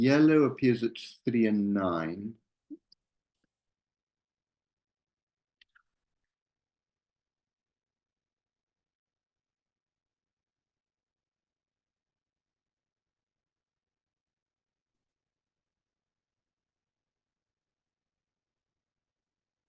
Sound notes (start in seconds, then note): 3.0 silence